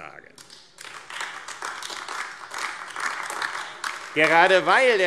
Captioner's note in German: Beifall AfD